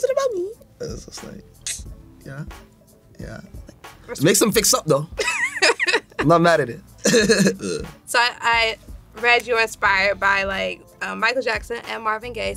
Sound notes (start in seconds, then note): 5.2 laughs